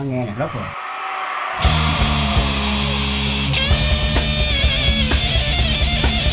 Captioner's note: audience cheering, metal music playing